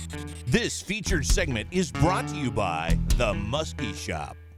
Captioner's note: voiceover